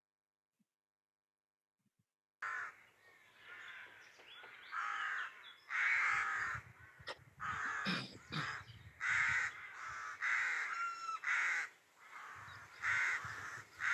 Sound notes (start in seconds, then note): 2.3 birds and outdoor ambience